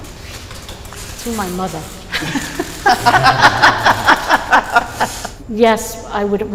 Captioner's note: laughter